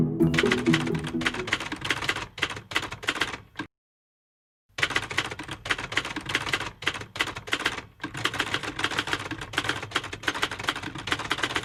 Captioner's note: typing sounds